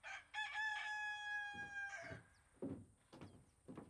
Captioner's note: rooster crowing